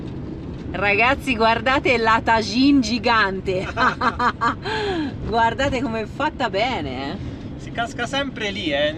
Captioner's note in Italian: risate